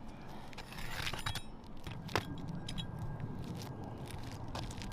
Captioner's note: tool scraping